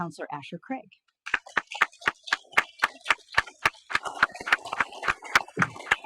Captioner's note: audience applauding